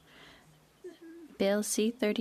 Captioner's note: speaking French